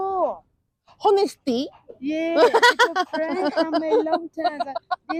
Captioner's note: laughs